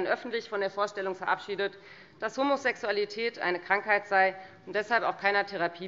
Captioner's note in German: none